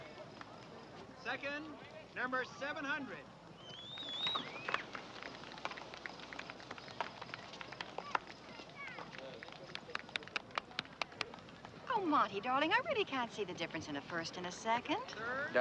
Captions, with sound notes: Second, number 700. (audience members whistling and applauding) - Oh, Monty darling, I really can't see the difference in a first and a second.